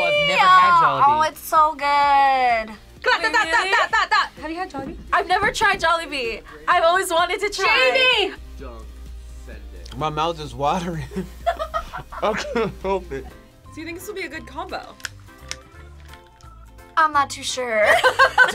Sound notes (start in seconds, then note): 3.3 vocalizing; 11.4 laughing; 14.7 headphones clicking; 17.9 laughs